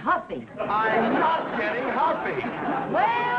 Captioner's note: audience laughing